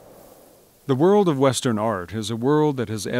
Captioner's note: voiceover